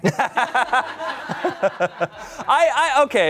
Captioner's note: everyone laughs